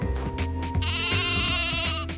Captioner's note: bleats